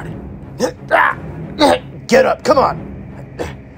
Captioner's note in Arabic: داريوس ينخر